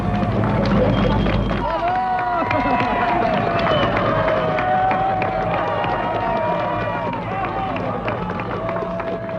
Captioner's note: cheering